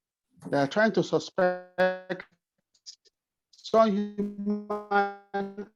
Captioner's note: audio cutting out